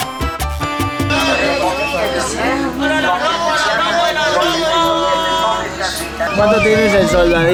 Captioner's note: people shout indistinctly to sell